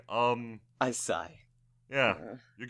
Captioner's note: I sigh